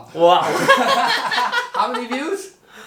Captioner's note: both laughing